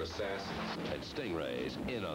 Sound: explosion

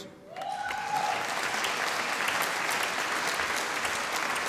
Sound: audience applauding

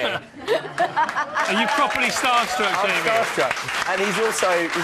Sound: applause

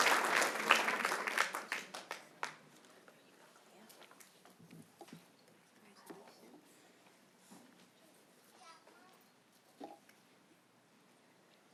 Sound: applause

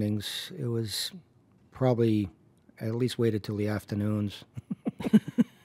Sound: both laugh

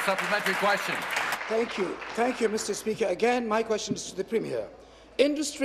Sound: applause

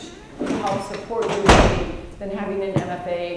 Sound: door slamming

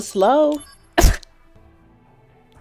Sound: laugh noise

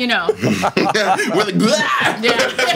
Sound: laughing

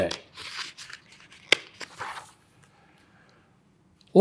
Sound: pages rustling

